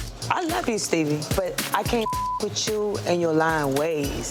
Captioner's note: beep